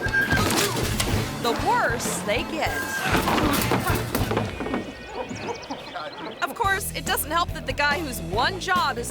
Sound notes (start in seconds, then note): 0.0 wheels creak; 0.2 rider thuds and moans; 2.6 rider crashes and moans